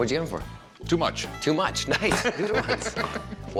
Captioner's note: laughs